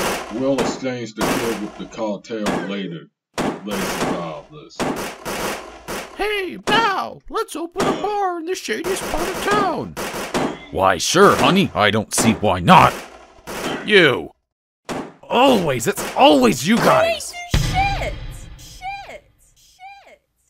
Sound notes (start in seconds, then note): 17.0 screams; 18.7 echo